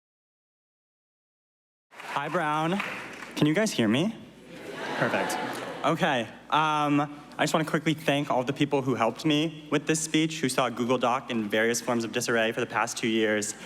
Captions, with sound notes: ( applause ) Hi, Brown. Can you guys hear me? Perfect. Okay. I just want to quickly thank all the people who helped me with this speech, Who saw Google Doc, in various forms of disarray the past two years.